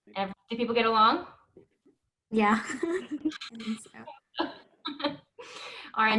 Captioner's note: laughs